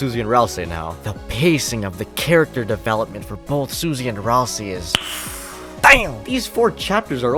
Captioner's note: inhales